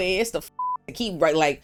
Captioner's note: beep